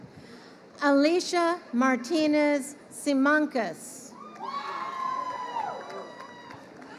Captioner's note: crowd cheering